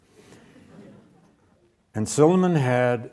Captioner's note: audience chuckles